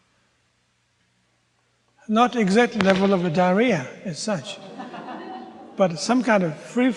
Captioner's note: audience groans